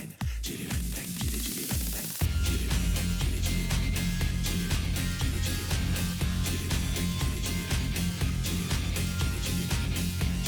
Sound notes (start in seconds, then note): none